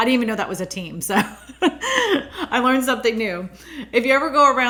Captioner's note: laughs